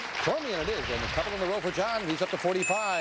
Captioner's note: bell ringing